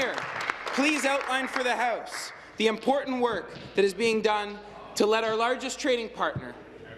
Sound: applause

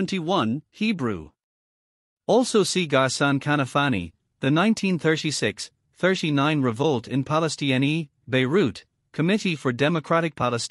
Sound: Hebrew

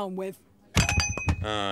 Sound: thump!

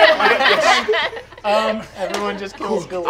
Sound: all laughing

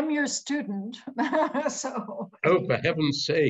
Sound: laughs

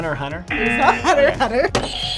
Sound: buzzer; buzzer rings

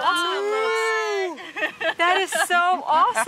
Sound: sounds of amazement

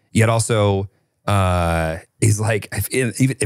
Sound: none

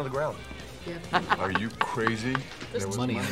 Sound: laughs

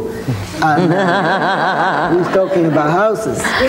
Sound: laughing

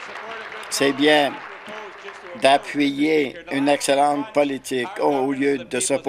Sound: applause

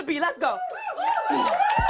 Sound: cheers

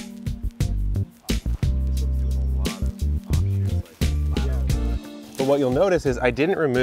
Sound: ambient music continues; indistinct conversation

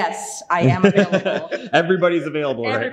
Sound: laughs

